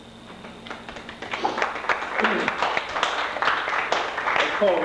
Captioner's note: applause